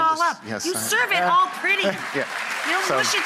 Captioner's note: crowd applauds